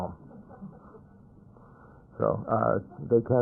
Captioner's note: laughter